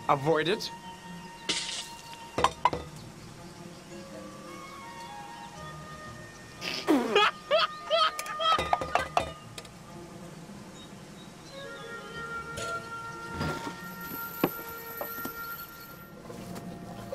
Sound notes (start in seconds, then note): 2.4 tapping cup; 6.6 laughing